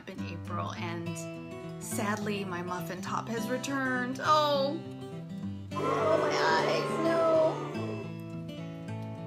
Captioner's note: sound of Audience: Booo